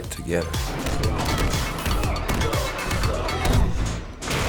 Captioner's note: men grunting